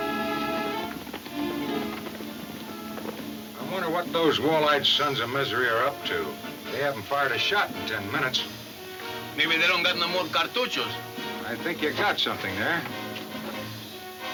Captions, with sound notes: (hooves thundering) - I wonder what those wall-eyed sons of misery are up to. They haven't fired a shot in 10 minutes. - Maybe they don't got no more (speaks in foreign language). - I think you got something there.